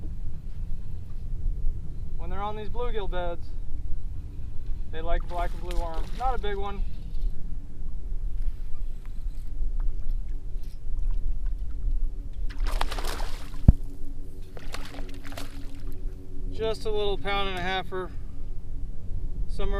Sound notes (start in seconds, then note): 12.4 water splashing